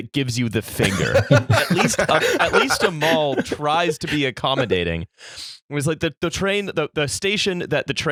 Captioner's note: laughter